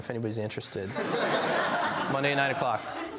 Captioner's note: laughs